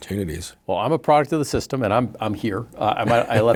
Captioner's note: laughing